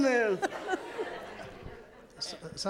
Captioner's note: audience laughs